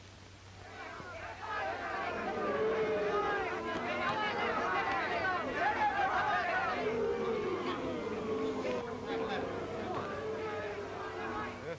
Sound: crowd noise in boxing stadium

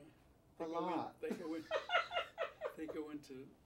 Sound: laughs

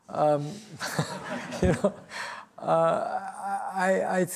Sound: laughter

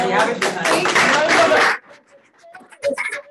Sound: audience applauding

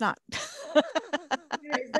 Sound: laughs

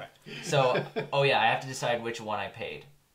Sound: laughs

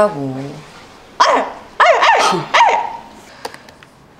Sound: makes barking noises

